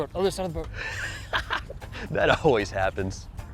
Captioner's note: laughs